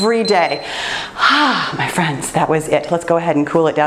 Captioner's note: timer beeps